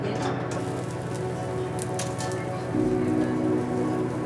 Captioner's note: water runs; pan sizzles